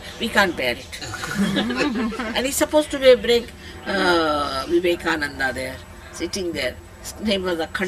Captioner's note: laughter